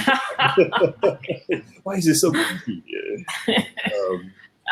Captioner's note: laughter